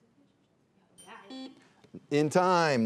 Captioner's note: bell dinging